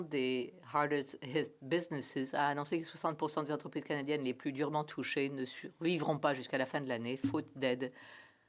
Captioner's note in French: voix de l'interprète